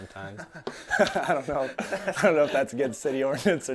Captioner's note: laughing loudly